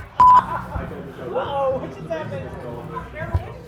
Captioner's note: beep